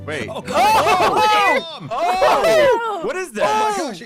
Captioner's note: SCREAMING, OOHs and AAhs